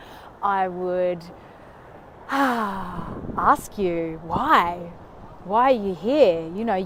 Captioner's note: exhales deeply